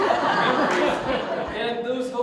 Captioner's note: audience Laughter